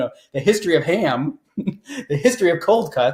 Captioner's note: laughs